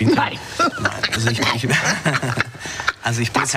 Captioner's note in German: lacht